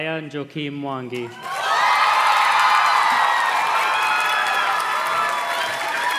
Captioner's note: audience cheers and claps